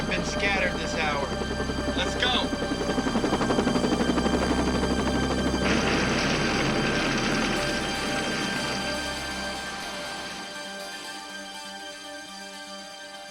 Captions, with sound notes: have been scattered this hour. Let's go. (helicopter whirring)